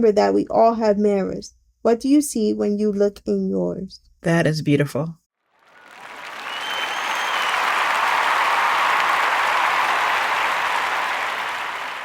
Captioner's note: cheering Sound Effect